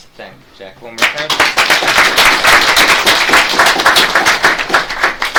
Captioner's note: audience claps